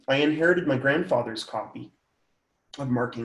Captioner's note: none